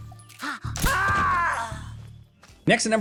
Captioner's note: The Fear groaning